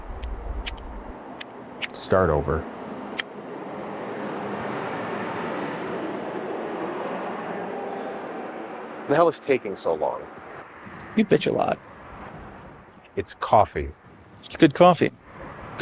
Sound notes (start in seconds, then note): 0.2 lighter clicking; 3.2 traffic bustling